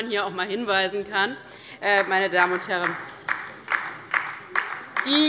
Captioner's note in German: Beifall DIE LINKE